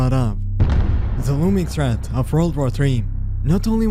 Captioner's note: explosion